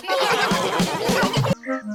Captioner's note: all laughing